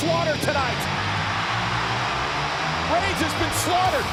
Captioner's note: audience cheers; pensive music